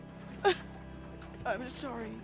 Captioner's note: sobs